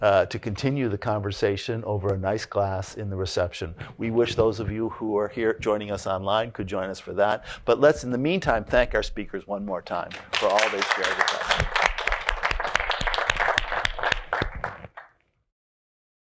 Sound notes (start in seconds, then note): 11.7 applause